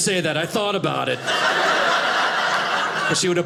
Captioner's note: audience laughing